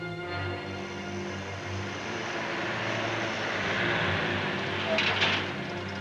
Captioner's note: cars whoosh past; clattering sound